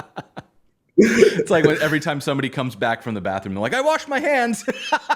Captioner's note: laughter